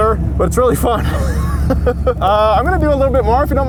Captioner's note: laughs